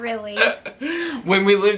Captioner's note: chuckling